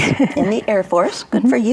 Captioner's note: laughs